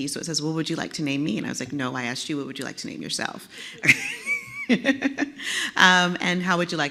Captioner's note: laugh